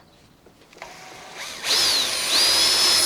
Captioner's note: drilling